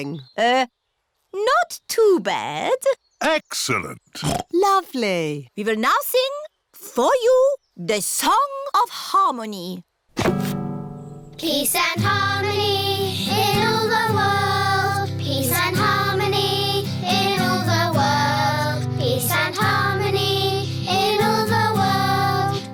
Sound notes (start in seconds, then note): 4.2 oinks